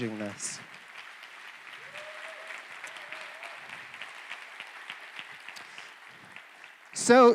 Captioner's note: applause